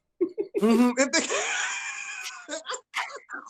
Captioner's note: laughs